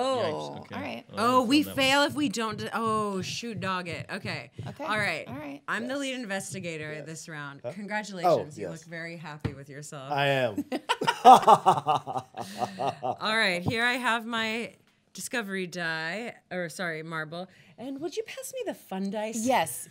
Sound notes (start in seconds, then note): 10.9 laughing